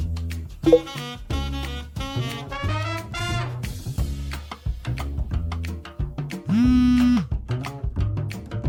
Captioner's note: phone Vibrating